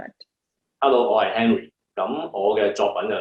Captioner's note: Cantonese